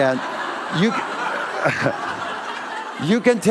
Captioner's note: laughter